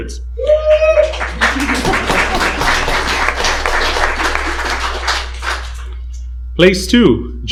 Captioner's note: applause